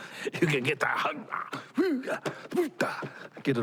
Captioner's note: grunting